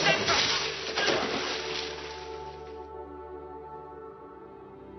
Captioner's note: groan